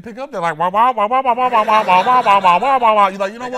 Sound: peanuts noise

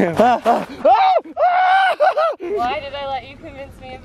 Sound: screaming

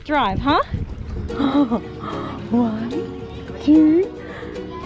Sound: laughing

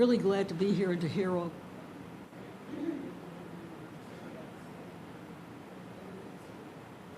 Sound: mic cuts out

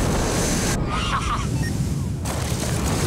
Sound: laughing

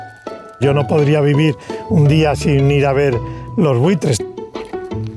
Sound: bright music; speaks in foreign language

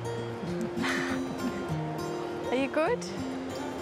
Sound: laughs

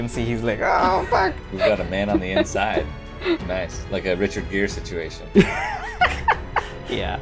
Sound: laughter

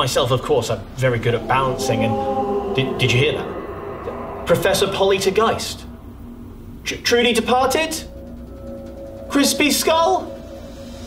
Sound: ghostly noises

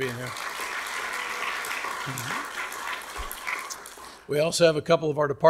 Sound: audience clapping

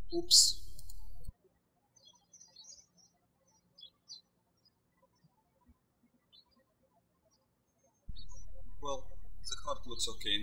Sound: birds chirping

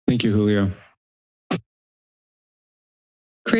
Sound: mic thumps

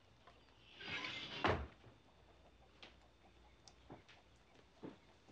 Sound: door squeaking

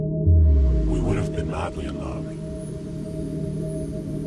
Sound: low Voice

